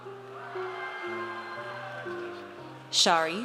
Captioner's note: audience cheers